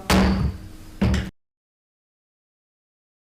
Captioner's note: gavel pounds